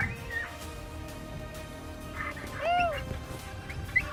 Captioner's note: coyote yelp